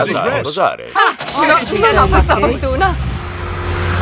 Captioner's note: car engine starts